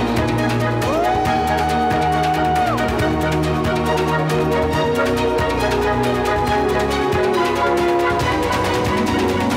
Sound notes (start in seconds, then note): 0.8 cheers from video